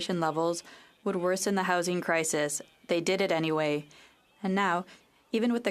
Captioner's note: speaking French